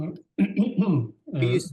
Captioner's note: clears throat